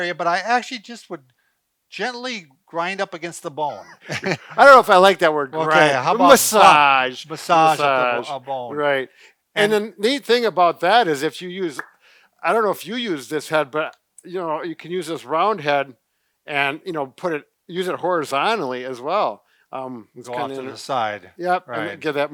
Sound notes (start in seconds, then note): 3.8 chukles